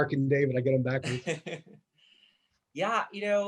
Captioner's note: laughing